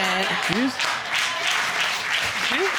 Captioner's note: audience applauding